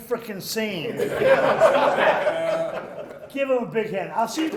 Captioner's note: laughing